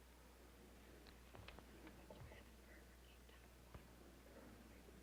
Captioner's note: whispering